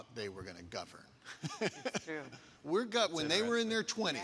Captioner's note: laughing